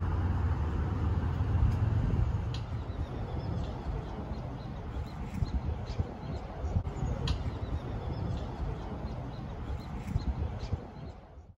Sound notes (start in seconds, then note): 10.5 birds chirping, wind blowing